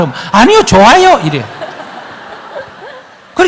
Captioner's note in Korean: 청중 웃음